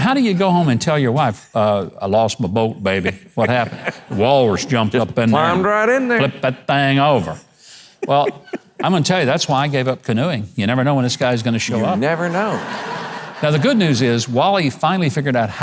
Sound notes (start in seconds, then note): 11.6 audience laughing